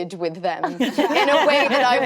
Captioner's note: actresses laughing